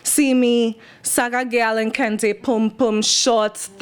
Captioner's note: non-english speech